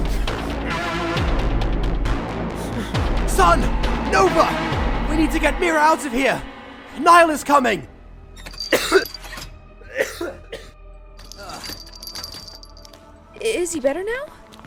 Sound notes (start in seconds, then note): 8.6 coughing